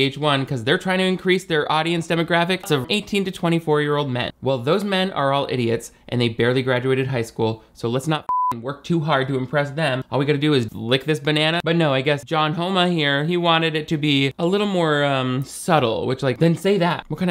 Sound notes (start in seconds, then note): 8.2 beep